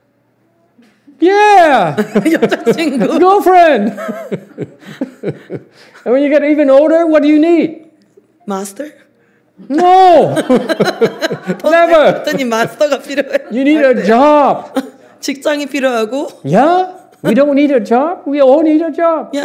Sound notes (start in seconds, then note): 1.8 laughs; 10.2 laughs, audience laughs